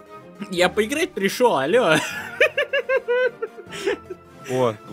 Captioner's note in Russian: истерический смех